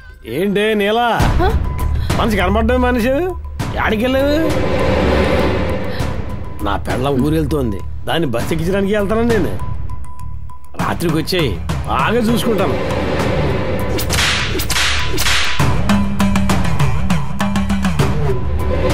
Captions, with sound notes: Hey Neela, you're not seen at all. Where did you go? My wife is going out of town. I'm going to see her off. Come at night, I'll take good care of you. (Whipping)